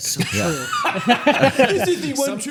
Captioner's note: both laughing